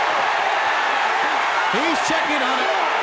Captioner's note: crowd cheers